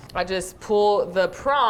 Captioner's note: none